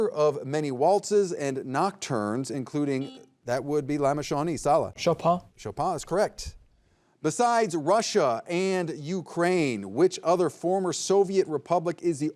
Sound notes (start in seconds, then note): 3.0 buzzer buzzing